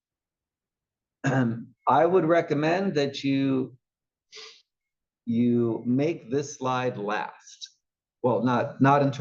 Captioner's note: cough